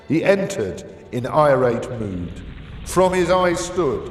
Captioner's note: fire crackling